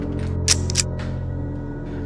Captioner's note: cocking gun